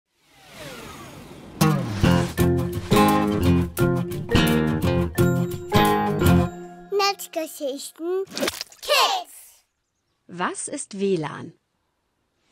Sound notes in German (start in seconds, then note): 8.3 Geräusch: Dicker Farbklecks klatscht auf Papier; 8.8 Kinderstimmen